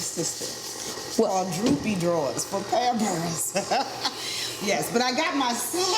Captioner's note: laughs